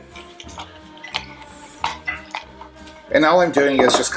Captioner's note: squishing sound and clinking of glass